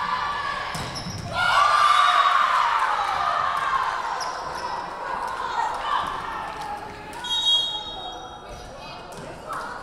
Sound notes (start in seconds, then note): 1.2 Lions cheering; 7.2 whistle blowing